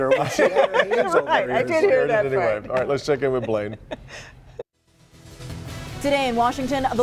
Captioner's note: laughter